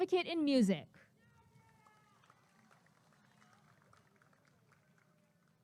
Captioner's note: applause and cheering